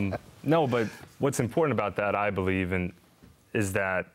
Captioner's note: laughter